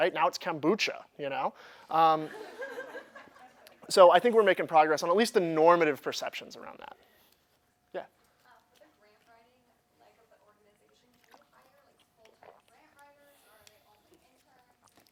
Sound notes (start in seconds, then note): 2.2 laughter